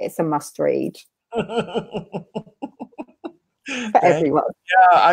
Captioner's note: laughs